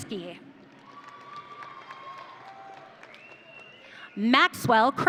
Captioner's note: audience cheering